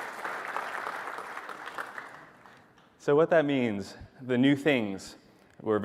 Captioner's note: applause